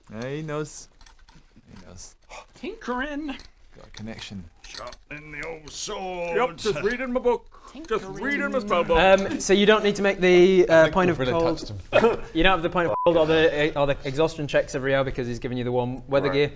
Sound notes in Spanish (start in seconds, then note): 11.9 risa burlona